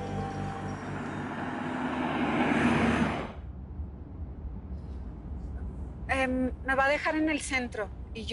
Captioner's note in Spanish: Sonido del carro